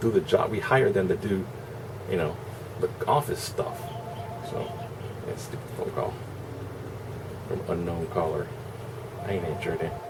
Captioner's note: phone rings